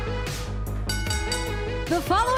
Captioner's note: bell ringing